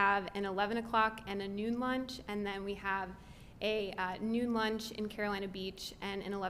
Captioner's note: none